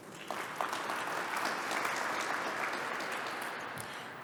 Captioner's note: applause